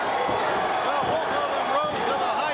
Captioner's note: crowd cheering